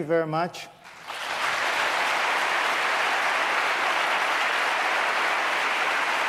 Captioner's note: applause